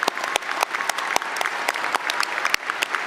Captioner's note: applause